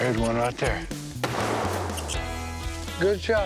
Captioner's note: gun banging